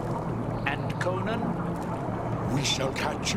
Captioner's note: none